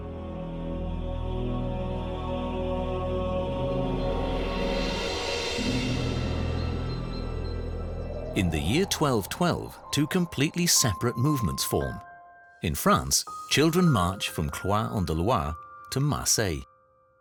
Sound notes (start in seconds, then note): 5.9 wind howling